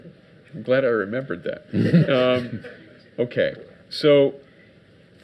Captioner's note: audience laughs